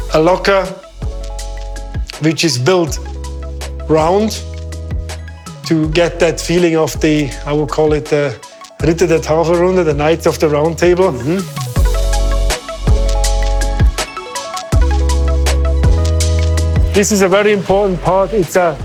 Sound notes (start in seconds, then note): 9.0 speaking foreign language